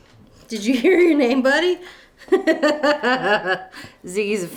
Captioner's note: laughs